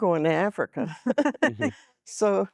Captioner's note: laughing